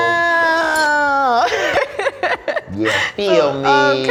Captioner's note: laughter